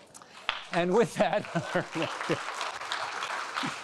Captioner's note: applauding; chuckling